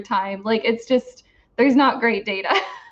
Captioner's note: laughs